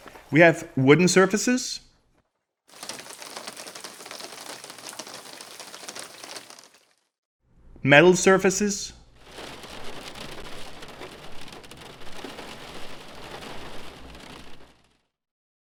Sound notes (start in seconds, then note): 2.7 rain droplets on wood; 9.1 rain droplets on metal